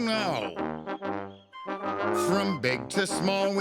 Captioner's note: melodic hooting